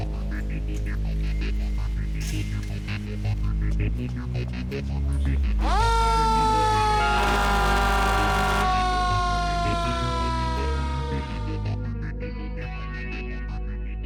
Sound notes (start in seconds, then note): 0.1 dramatic music; 5.6 siren blares; 6.8 horn honks; 11.1 dramatic music